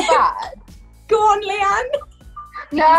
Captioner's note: laughs